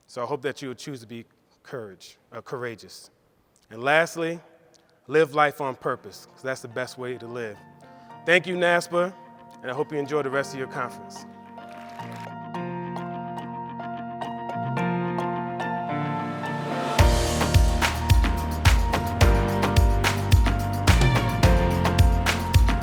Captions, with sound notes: So I hope that you will choose to be courageous. And lastly, live life on purpose because that's the best way to live. Thank you NASPA and I hope you enjoy the rest of your conference. (audience claps) (soft music)